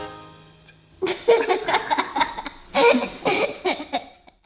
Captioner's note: laughing